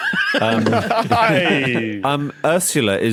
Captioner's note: laugh